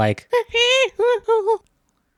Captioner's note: chimp noises